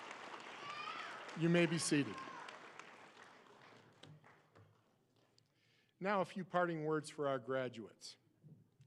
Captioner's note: applause